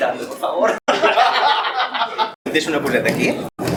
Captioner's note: laughs